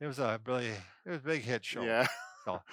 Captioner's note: laughs